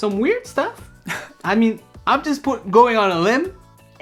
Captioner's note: Sandrine laughs